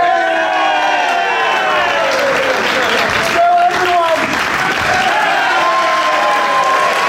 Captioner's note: audience cheering; audience applauding